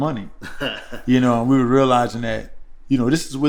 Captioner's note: laughter